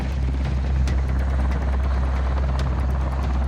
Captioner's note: helicopter blades chopping; dramatic music